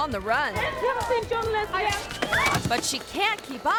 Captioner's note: screams